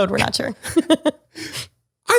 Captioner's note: both laugh